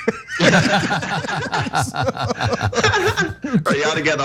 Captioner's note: laugh